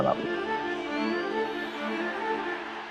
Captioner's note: crowd roars